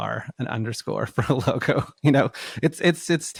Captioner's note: laughs